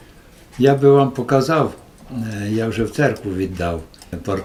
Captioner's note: in Ukrainian